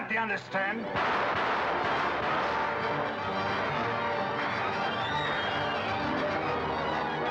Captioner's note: gunfire; dramatic music